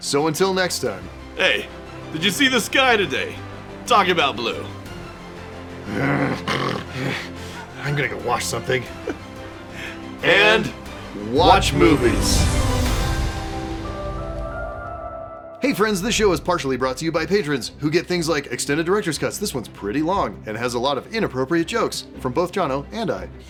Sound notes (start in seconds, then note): 5.8 snarls